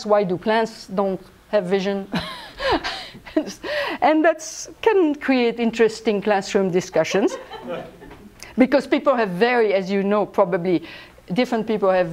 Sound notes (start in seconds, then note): 3.1 laughs; 7.0 laughter